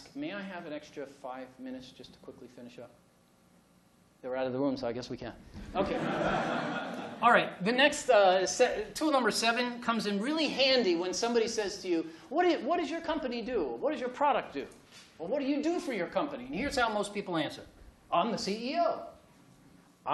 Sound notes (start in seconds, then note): 5.8 laughter